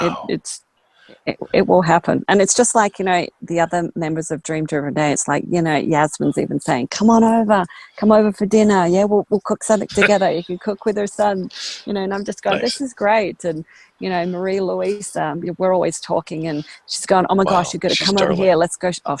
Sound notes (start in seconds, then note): 12.4 laughs